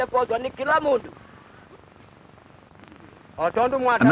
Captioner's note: non-English speech